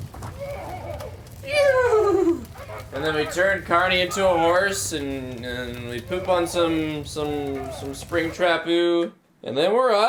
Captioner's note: nieghs